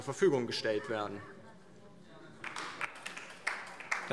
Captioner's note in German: Beifall DIE LINKE